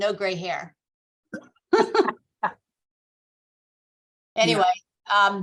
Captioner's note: laughs